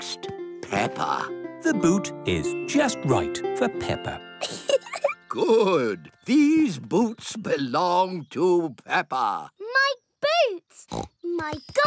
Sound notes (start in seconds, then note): 4.4 laughs; 10.8 snorts